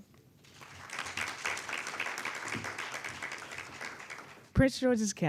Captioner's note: audience applauding